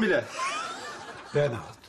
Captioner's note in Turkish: Gülme sesi